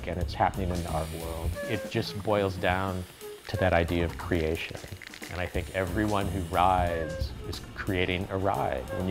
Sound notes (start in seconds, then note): 1.4 spraying paint